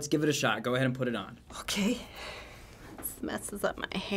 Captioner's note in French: nerveusement